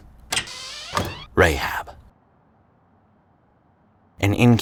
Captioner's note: window creaking